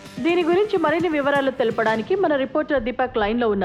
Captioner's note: none